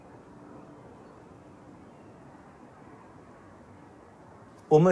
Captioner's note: air whooshing